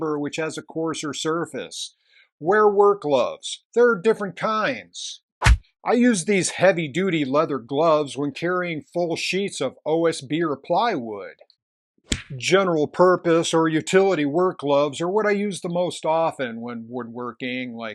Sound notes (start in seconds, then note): 5.4 smack; 12.0 spank